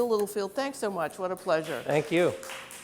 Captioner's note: audience clapping